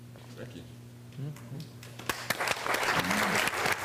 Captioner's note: applause